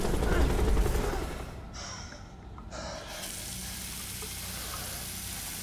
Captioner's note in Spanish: Respirando profundamente